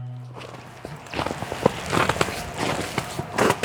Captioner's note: walking on snow